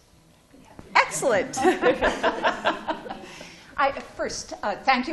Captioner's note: laughter